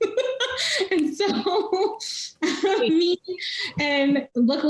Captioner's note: laughing